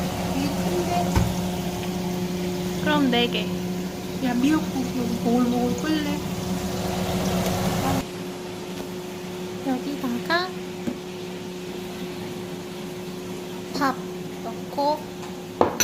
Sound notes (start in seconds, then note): 6.8 boiling